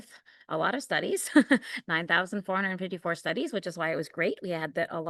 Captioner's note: laughter